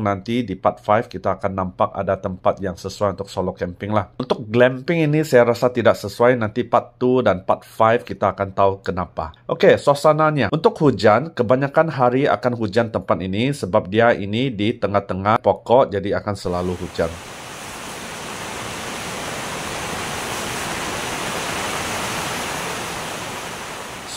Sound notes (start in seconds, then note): 9.5 rain